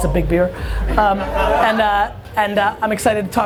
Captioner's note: laughing